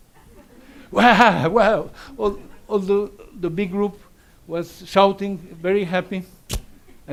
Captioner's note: laughs